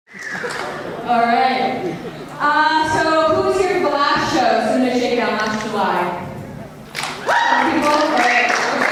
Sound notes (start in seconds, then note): 7.1 cheers